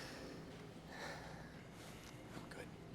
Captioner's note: Addison breathes heavily